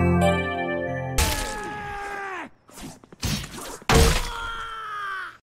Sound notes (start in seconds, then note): 1.2 scream; 3.9 scream